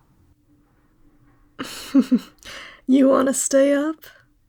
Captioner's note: laugh